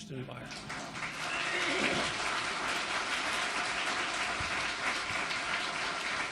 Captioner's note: audience applauds and cheers